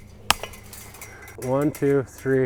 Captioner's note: chain link snapping